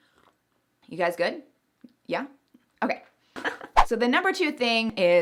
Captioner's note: laughs